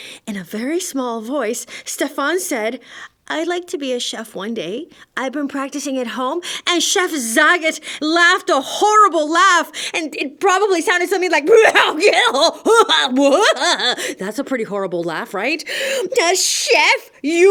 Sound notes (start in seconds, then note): 12.2 horrible laugh